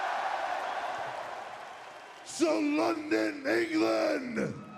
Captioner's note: crowd cheering